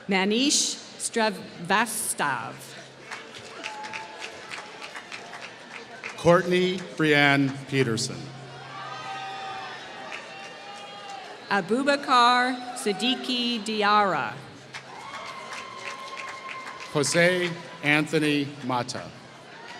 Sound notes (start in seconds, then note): 2.8 applause; 9.6 applause; 14.5 applause